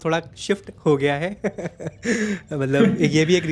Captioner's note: laugh